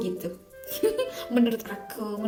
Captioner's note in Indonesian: Tertawa